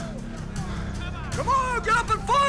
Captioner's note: overlapping chattering